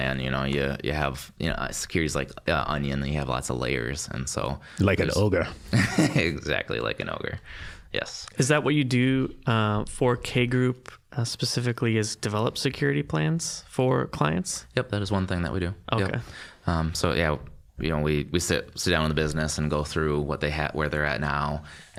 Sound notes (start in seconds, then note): 4.8 with Scottish accent; 5.6 laughing